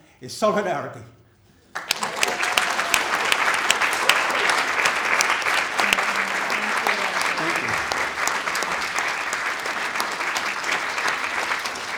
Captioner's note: applause